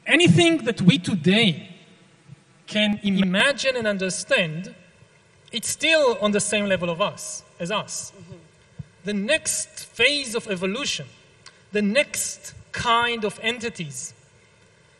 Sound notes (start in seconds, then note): none